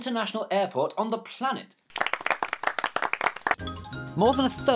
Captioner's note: mild applause